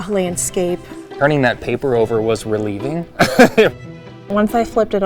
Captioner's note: laughs